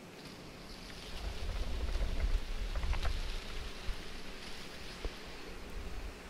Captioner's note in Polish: szumy i chrobot